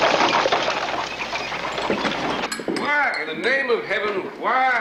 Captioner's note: Aplausos